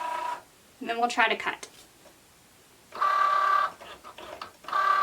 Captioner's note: machine whirring